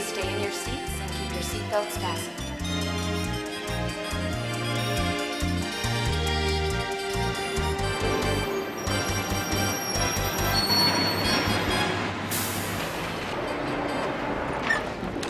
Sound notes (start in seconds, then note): 5.6 zestful music; 10.9 brakes squealing